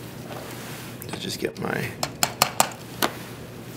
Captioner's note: taps